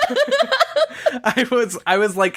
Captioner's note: laughs